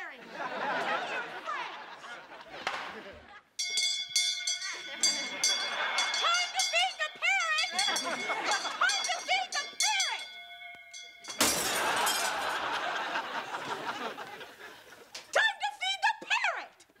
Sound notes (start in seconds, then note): 3.3 bell dinging